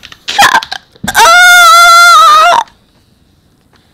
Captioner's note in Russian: кричать!!!!